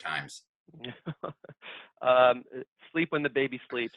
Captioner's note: laughs